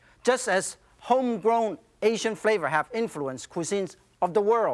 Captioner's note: none